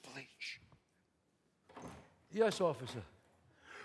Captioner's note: door opens